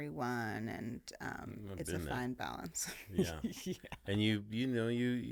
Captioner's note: laughing